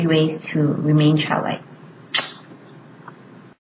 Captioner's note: blows kiss